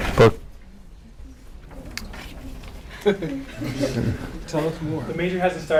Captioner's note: audience chatter